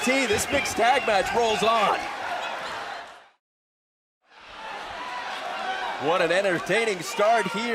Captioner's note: crowd chatter